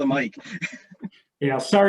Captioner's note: chuckles